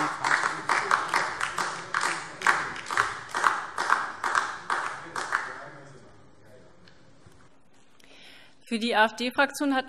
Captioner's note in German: Beifall DIE LINKE